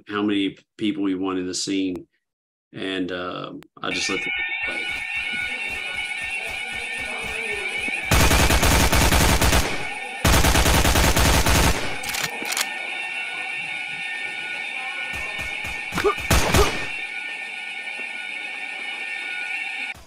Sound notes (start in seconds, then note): 4.6 alarm blaring; 8.0 gunshots blasting; 15.1 gunshots blasting